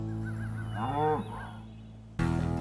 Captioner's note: laughing; cow moos